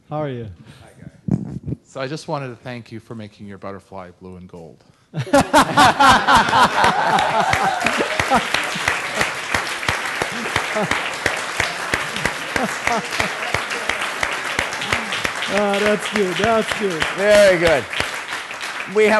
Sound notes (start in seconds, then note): 5.4 applauding; 5.4 laughing